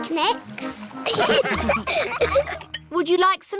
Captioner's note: laughter